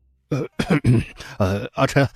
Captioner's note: clears throat